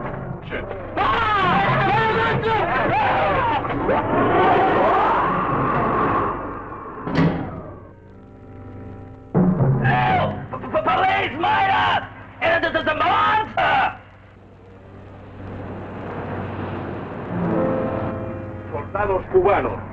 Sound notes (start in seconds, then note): 0.8 men screaming and chattering; 6.9 head banging; 17.9 General Tostada speaking in Spanish